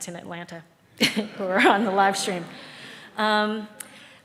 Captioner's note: audience chuckles